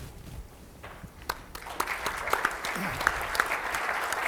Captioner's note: applause